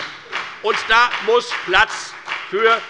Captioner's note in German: Beifall bei der FDP